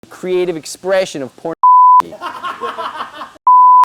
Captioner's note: beep; laughing